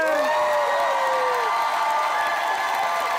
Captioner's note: cheering, applause